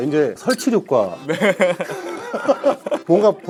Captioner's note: laugh in agreement